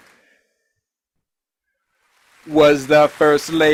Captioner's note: applause